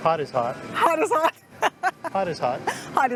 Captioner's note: laughs